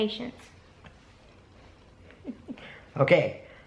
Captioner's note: laughing